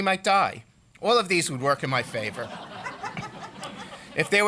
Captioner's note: laughter